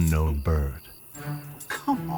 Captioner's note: Zorin grunting far off